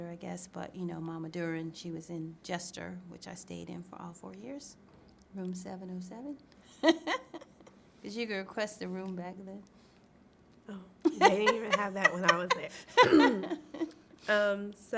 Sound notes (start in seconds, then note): 6.8 laughs